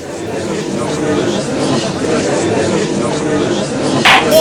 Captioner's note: gallery chattering